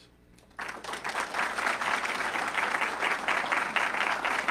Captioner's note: audience clapping